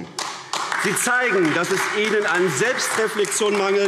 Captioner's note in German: Beifall AfD